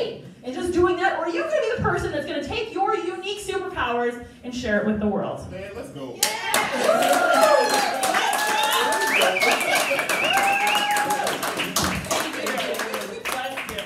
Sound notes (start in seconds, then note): 7.5 crowd Cheering; 11.9 crowd Applause